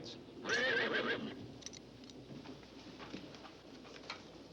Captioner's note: Danny neighing